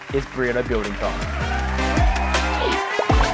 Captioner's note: applause